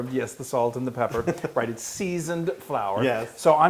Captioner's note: laugh